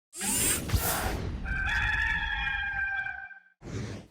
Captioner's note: logo whooshing